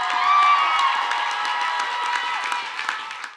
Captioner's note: cheers and Applause